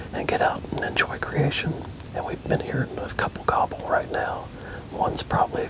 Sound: whispering

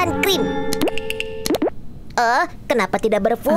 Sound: cream boops

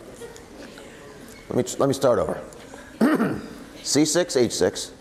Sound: clears throat

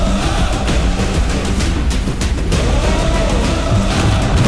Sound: crowd cheering

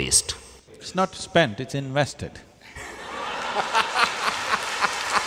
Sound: laughter/Applause

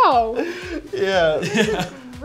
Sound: laughter

